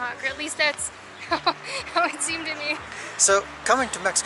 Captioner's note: giggles